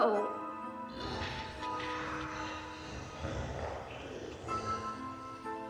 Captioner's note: growling voice chattering